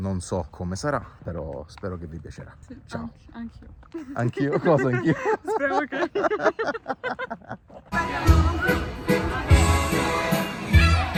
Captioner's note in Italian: risate